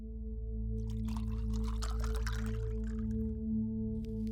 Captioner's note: liquid pouring